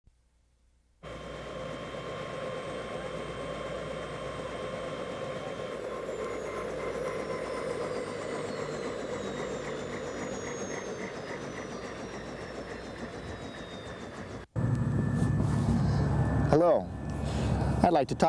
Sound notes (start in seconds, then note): 1.0 helicopter Rotor Noise